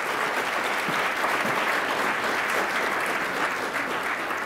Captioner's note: attendees applauding